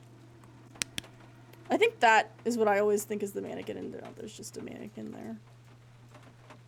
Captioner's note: flashlight Clicks On